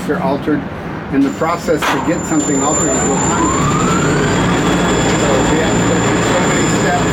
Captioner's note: whirl of man lift operating